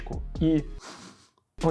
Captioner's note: sniffing intensifies